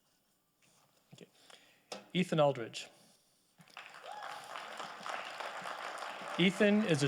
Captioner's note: audience applauding